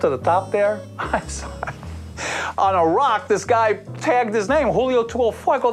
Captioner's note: chuckles